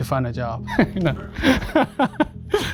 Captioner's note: laughter